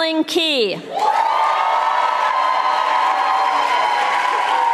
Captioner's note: audience applauding